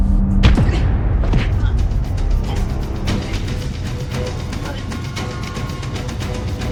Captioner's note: tense music continues; both grunting